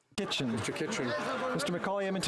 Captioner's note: speaking French